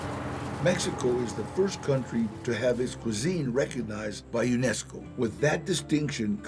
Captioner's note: in English